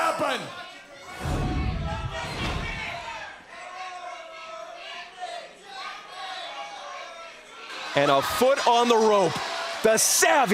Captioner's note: crowd chatter